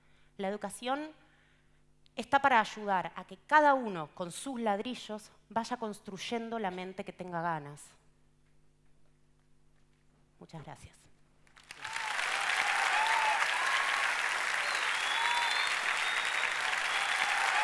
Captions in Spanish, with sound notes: La educación está para ayudar a que cada uno, con sus ladrillos, vaya construyendo la mente que tenga ganas. Muchas gracias. (Aplausos.)